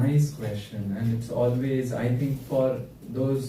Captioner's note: none